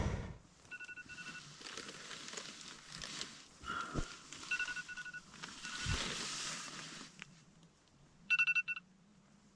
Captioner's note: alarm clock